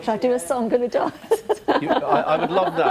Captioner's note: all laughing